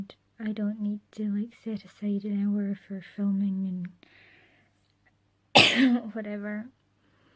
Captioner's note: coughs